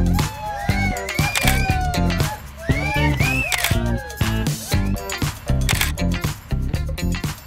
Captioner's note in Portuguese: som de comemoração; som de flash